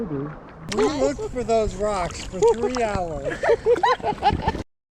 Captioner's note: laughs